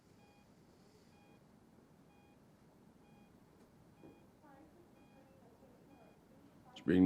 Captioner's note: heart monitor beeping